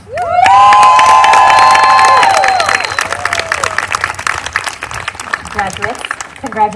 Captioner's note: applause